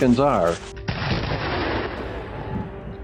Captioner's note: a gunshot